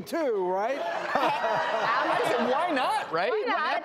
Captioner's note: audience laughs